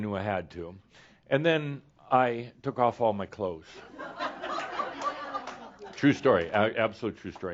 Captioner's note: some laughter